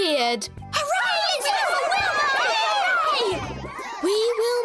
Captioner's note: cheering